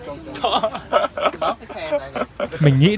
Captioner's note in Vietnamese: tiếng cười